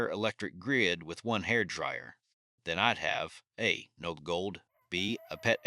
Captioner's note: support rooster crows faintly in distance